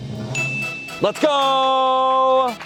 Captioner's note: bell dings